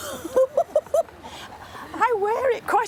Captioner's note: laughs